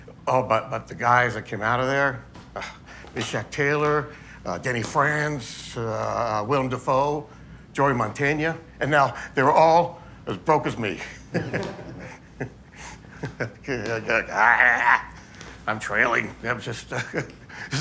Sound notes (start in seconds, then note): 11.4 audience laughing